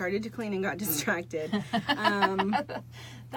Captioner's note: laughing